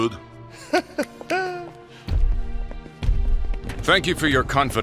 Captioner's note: laughs